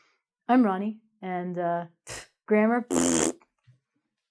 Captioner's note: blows tongue